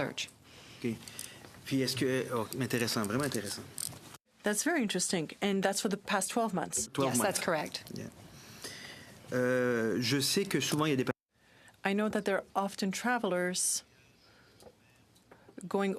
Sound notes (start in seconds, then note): 7.4 speaking in french